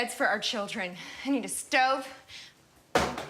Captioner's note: thudding